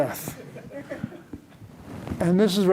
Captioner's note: laughter